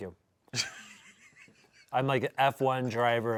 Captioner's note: laughs